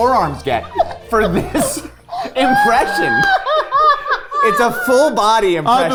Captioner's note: group laughing